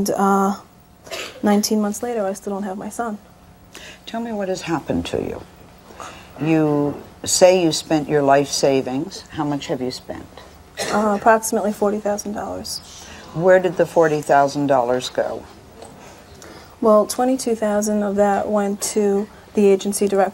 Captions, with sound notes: 19 months later I still don't have my son. Tell me what has happened to you. You say you spent your life savings. How much have you spent? Approximately $40,000. (audience gasps) Where did the $40,000 go? Well, $22,000 of that went to the agency directly.